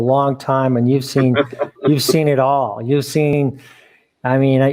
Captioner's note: chuckling